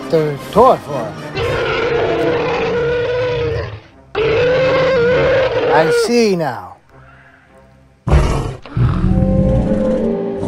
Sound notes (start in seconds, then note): 1.3 carcharodontosaurus Sounds; 8.0 various Dinosaur Sounds